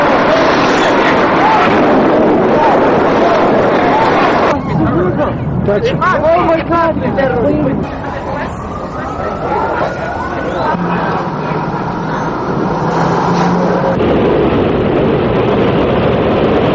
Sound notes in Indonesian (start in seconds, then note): 0.0 suara ledakan; 6.0 suara gemuruh